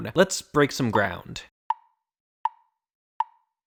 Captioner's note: tick, tick, tick, tick, tock